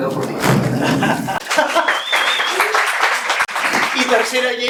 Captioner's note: applause